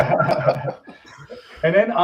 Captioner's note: all laughing